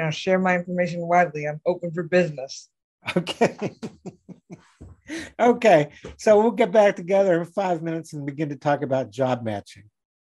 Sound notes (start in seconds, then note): 3.1 laughing